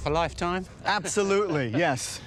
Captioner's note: laughs